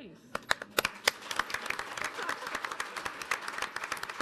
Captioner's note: audience applauding